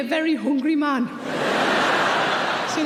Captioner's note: audience laughing